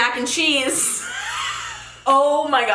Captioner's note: laughs